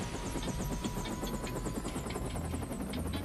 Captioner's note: helicopter Whirs